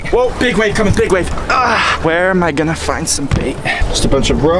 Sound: grunts

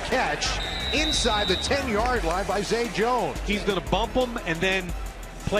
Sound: whistle

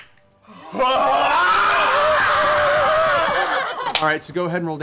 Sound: screaming and cheering

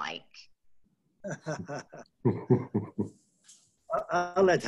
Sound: chuckling

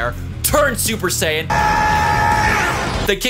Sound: Goku screaming

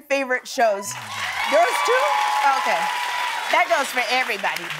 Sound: cheers and applause

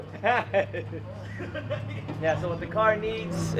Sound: man laughing

